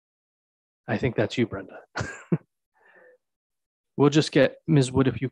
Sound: chuckles

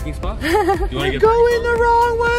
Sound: laughs

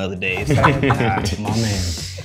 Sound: everyone laughing

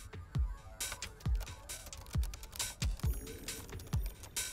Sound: keyboard typing

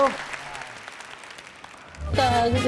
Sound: applause

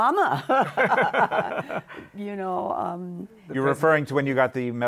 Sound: laughs

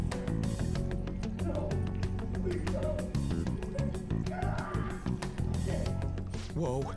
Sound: painful screams

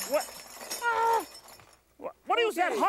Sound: metal clanking; lightly screams

